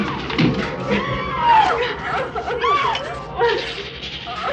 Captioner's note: screaming